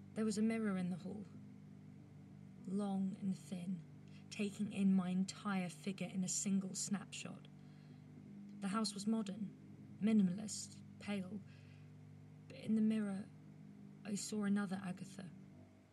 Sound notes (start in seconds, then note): none